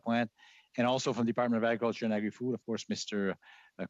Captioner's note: speaking French